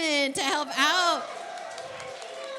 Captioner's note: applause and cheering